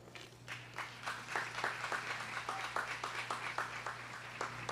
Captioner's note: students clapping